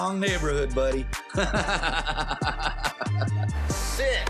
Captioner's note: laughs